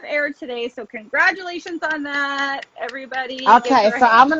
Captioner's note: claps